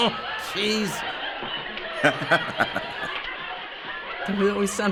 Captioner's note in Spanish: Riéndose; Se ríe